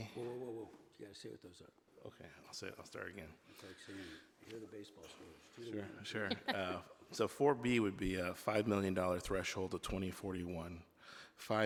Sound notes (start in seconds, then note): 6.2 laughing